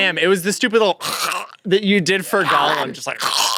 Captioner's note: growl